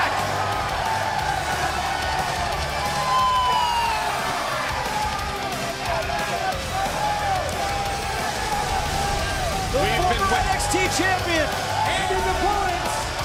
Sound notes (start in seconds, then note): 1.5 crowd cheering